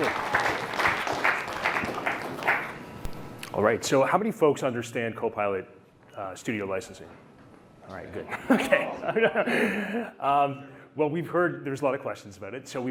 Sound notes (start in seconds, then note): 3.6 applause; 8.2 laughter